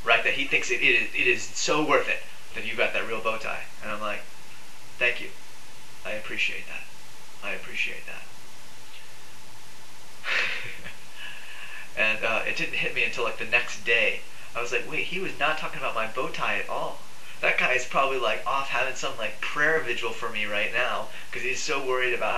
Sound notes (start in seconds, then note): 10.2 laughs